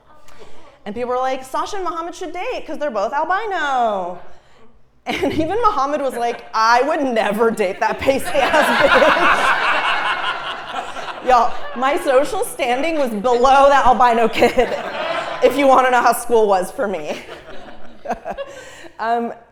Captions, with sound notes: And people were like, Sasha and Muhammad should date cuz they're both albino. And even Muhammad was like, I would never date that pace-based. (Laugh) Y'all, my social standing was below that albino kid. If you wanna know how school was for me.